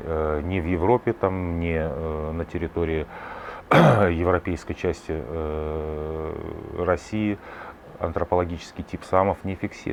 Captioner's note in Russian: откашливается